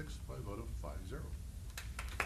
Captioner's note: applause